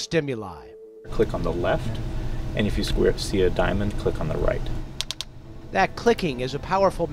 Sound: clicking sound

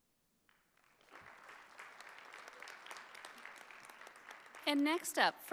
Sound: audience applauding

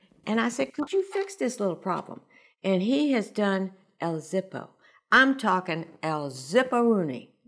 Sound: none

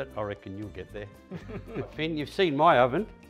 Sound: both laughing

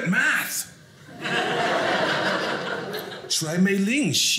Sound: audience laughing

